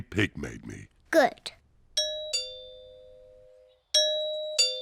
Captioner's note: doorbell rings